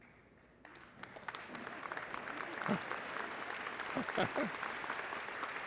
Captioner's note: applause